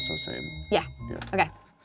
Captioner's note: bell clicking sound